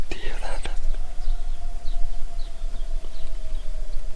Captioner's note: distant howl